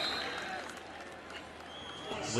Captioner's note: whistle